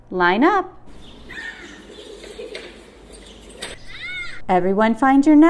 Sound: outside sounds, birds chirping, kids playing and laughing

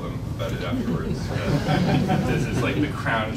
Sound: laughing

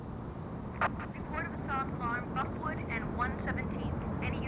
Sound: police scanner

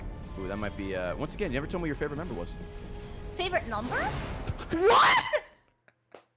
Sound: laughs

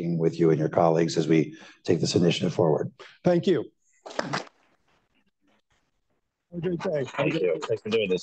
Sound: applause

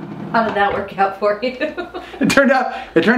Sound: laughing

